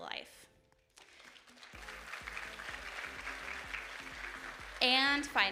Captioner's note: audience applauding